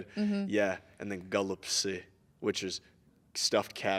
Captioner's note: speaking in Russian